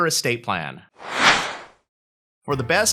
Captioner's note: air whooshing